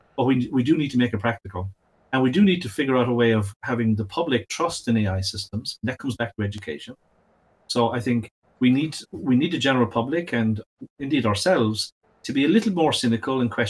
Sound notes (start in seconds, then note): none